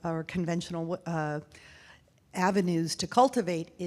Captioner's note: none